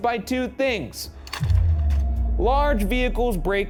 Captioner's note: slide projector clicks